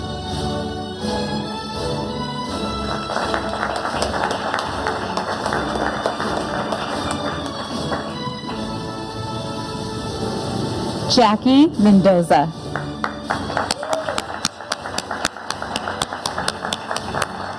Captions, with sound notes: (audience applauding) Jackie Mendoza. (audience applauding)